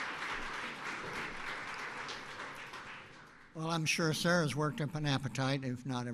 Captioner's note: applause